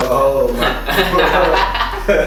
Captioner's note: haha